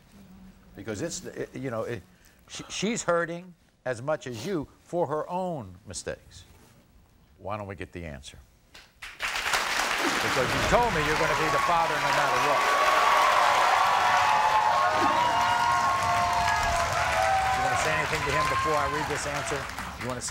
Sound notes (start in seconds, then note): 8.8 audience applauding and cheering